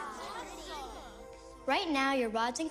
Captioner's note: kids exclaiming, chattering